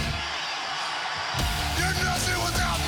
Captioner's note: crowd cheering